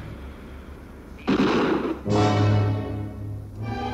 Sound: guns firing; erratic music

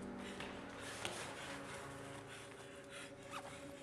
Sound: rapid breathing

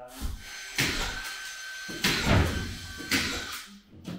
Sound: nail gun sounds

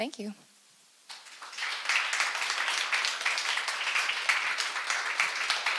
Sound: audience applauds

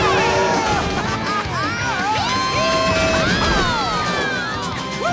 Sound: cheering

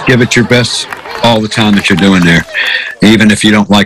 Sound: applause

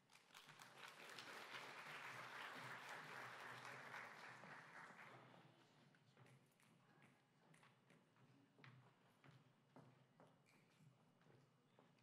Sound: applause

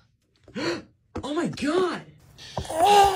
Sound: gasps

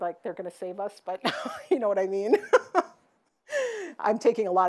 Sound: laughs

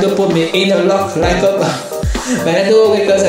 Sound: gasp

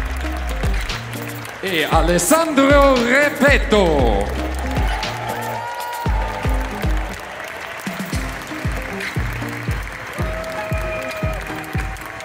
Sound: applause

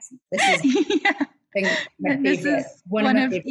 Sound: laughs

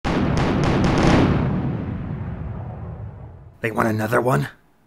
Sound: Wind Waker Game Over booming SFX

